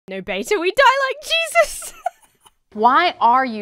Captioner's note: laughs